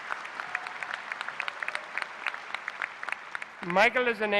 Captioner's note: applause